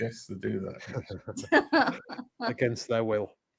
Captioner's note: laugh